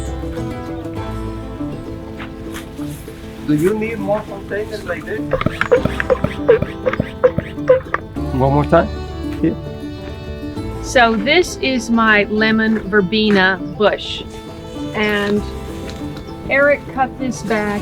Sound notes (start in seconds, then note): 5.3 pumping sound